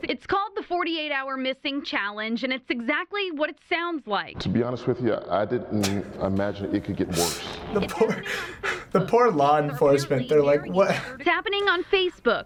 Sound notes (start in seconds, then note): 7.0 chuckles